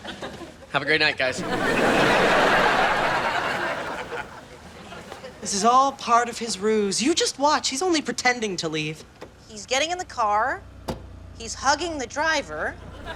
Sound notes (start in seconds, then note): 1.2 audience laughing